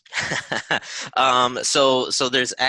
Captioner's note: laughs